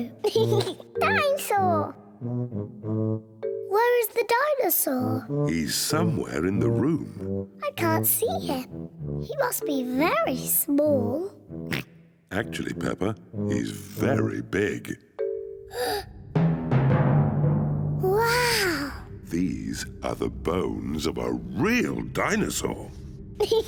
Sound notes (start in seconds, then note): 0.2 laughs; 11.6 oinks; 15.7 gasps; 23.4 laughs and oinks